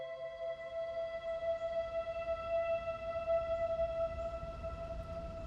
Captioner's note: forest commotion